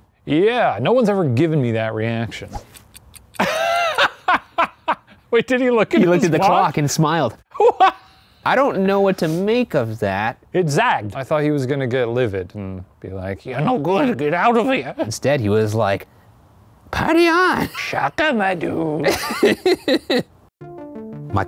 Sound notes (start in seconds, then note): 3.2 laughs; 7.5 laughs; 19.0 laughs